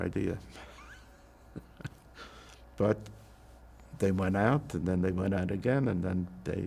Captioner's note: laughing